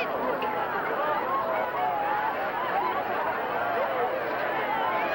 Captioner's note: cheering and yelling